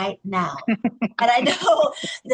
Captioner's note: laughs